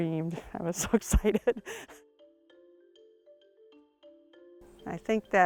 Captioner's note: laughs